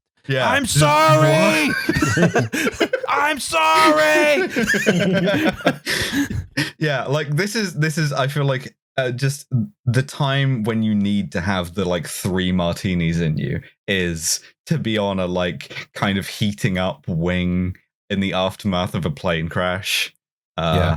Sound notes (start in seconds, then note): 0.4 laughs; 2.2 laughter; 4.4 laughter; 20.7 laughs